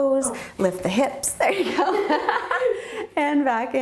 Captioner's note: laughing